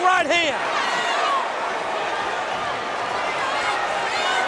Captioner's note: audience cheering